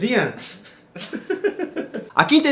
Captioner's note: not-so-evil laugh